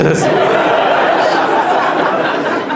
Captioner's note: audience laughs